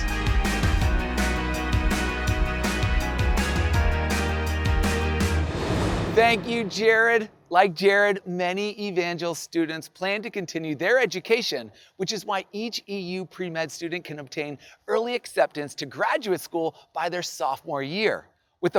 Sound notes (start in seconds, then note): 0.0 upbeat music; 4.8 air whooshing